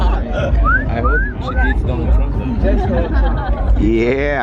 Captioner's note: laughter; whistling